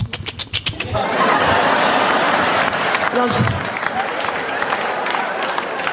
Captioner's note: audience laughing and applauding